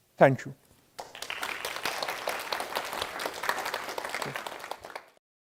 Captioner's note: audience applauding